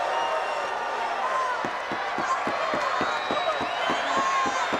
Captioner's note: crowd cheering; Sherri thudding on ring